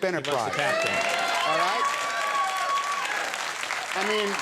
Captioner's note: audience cheering